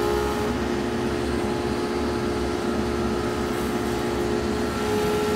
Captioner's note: machine whirring